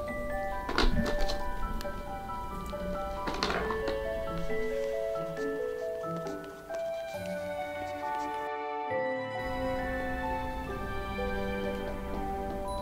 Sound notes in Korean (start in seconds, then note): 2.8 편지 쓰는 소리